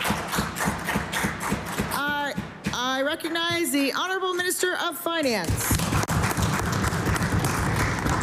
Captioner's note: applause